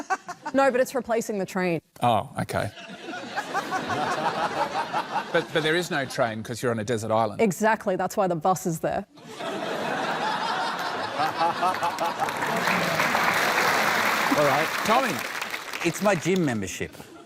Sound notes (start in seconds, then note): 11.2 applause